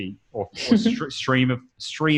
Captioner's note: laughs